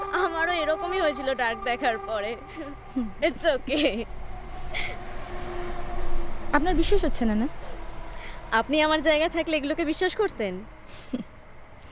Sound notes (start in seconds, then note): 3.7 laughter